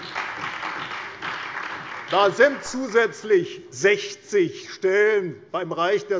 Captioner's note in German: Beifall bei der CDU und dem BÜNDNIS 90/DIE GRÜNEN